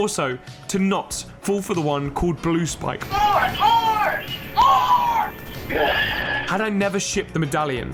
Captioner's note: sigh